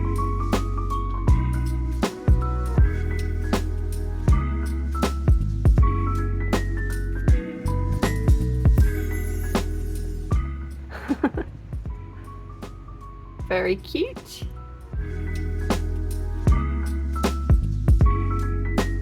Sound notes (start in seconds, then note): 0.0 upbeat jazz; 11.0 laughing; 16.4 upbeat jazz